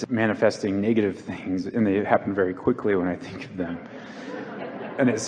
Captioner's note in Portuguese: A plateia ri